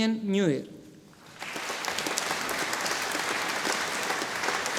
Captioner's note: audience applauding